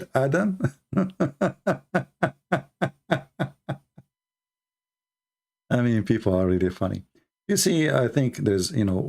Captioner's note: Ketawa